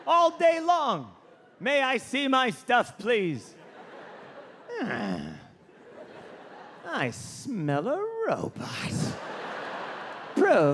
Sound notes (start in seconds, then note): 3.3 audience laughing; 4.7 John grumbles; 6.0 audience laughing; 8.6 audience laughing